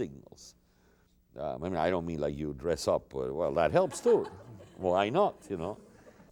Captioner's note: laughter